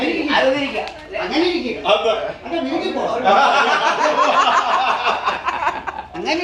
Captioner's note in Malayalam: പൊട്ടിച്ചിരി